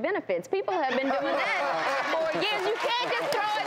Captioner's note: audience laughter